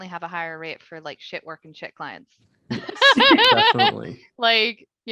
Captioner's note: laughing